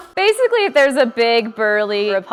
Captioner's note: none